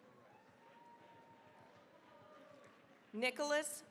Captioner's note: cheering, applause